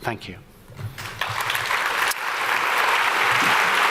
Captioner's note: applause